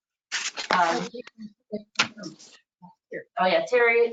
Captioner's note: speaking distantly